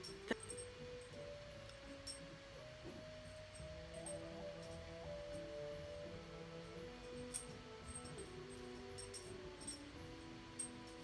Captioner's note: dog tags jingle